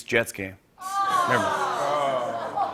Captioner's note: audience groans